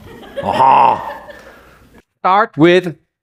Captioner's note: laughter